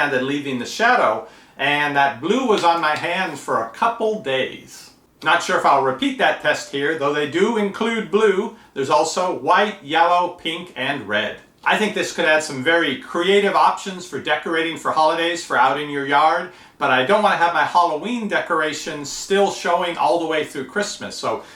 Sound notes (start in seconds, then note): none